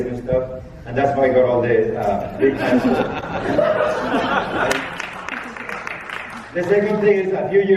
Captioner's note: laughing